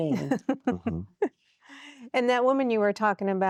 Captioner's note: giggling